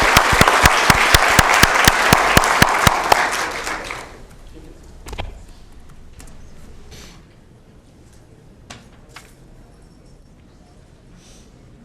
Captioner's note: applause